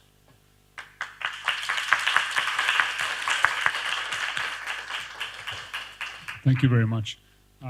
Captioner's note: applause